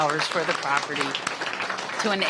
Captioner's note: applause